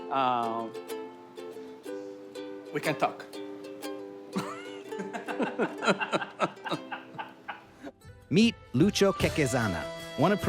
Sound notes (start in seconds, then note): 4.3 laughing